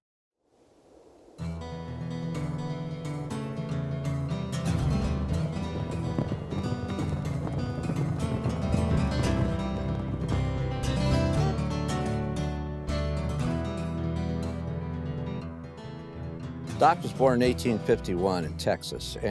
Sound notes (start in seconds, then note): 0.4 wind; 1.5 guitar music